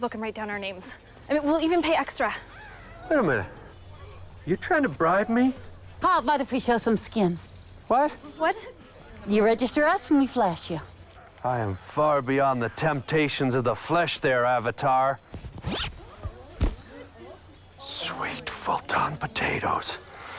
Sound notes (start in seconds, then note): 15.5 unzip